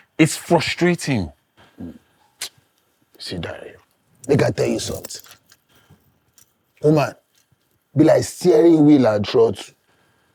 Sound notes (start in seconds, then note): none